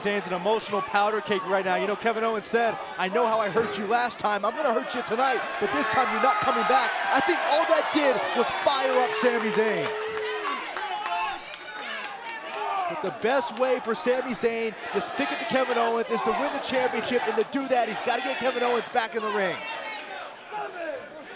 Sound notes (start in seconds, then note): 9.7 crowd cheering